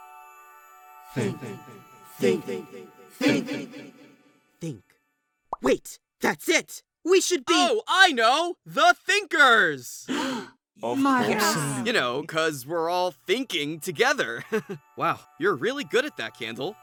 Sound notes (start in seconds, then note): 10.1 all gasp; 10.9 all agree